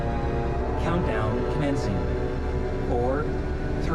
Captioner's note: computer voice